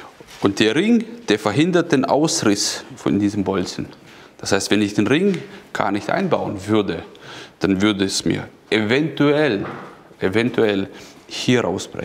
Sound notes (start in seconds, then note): none